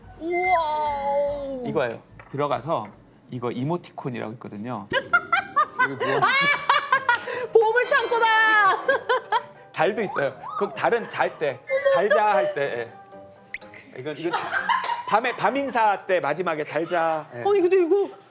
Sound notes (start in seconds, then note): 5.0 immediately burst out laughing